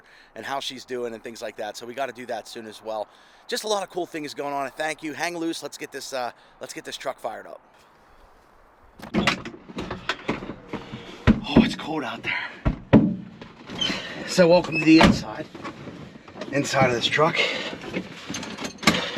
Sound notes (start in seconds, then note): 9.0 truck door squeaks